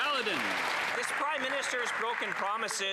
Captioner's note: applause